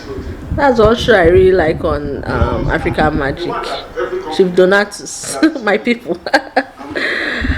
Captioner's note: laughs